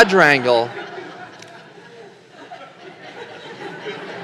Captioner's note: laughter